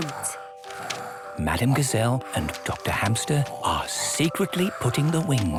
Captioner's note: whispering